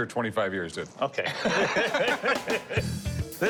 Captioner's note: laughs